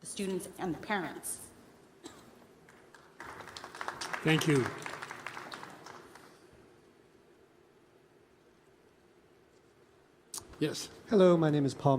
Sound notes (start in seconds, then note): 2.6 applause